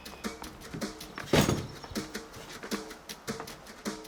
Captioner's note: bag drops